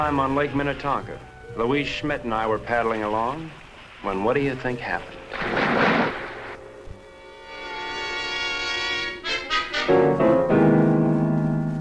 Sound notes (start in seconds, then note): 4.5 water whooshing; 6.0 intense instrumental music